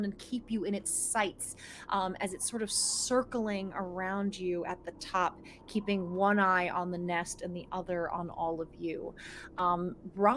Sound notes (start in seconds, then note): none